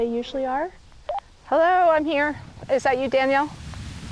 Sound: walkie beeps

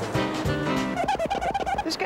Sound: squeaking

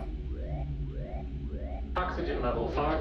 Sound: alarm blaring; soft dramatic music

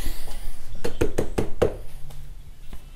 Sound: a knock on the door

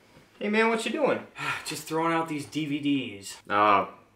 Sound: sigh

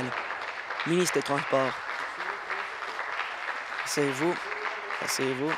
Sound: applause

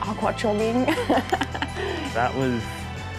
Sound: laughs

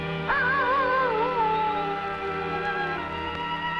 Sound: animal howling

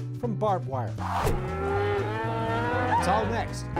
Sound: cattle mooing

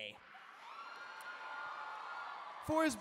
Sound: cheering

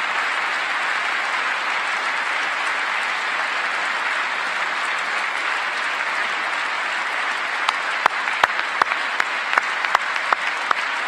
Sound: applause

